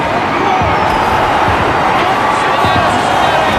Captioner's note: Spanish; Polish